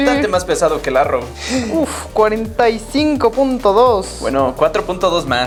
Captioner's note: gasp